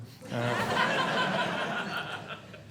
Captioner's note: audience Laughing